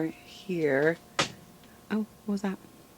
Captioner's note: knock